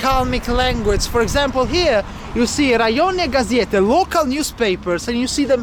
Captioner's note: russian